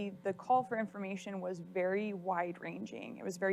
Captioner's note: none